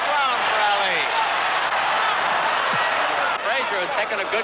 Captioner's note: crowd cheering; crowd exclaiming